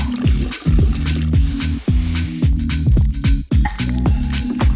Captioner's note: whisk stirring; sugar pouring; mixture bubbling